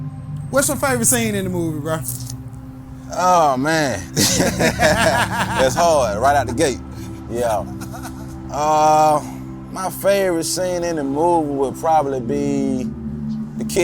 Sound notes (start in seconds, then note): 4.1 both laughing; 7.8 laughing